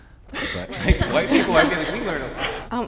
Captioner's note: group laughing